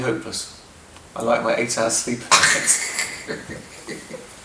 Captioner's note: laughter